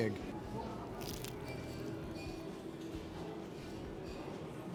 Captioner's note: crunching